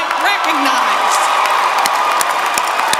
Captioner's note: applause